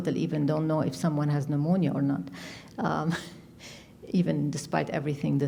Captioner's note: chuckles